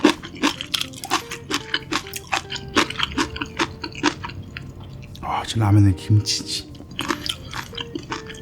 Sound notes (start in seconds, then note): 0.0 crunchy